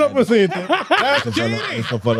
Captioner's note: speaking In Foreign Language